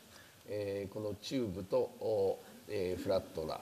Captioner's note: speaking japanese